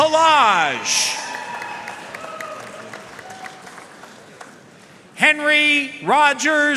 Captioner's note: audience cheering and applauding